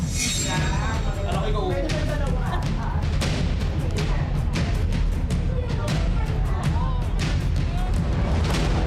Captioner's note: thrilling music building; indistinct chatter